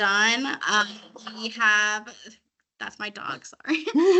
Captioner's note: laughing